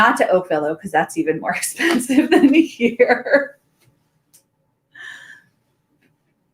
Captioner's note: laughs